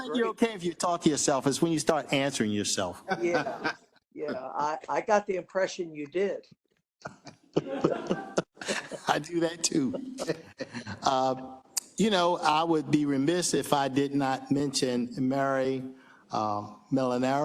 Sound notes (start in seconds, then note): 7.0 laugh